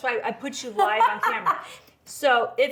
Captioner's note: laughs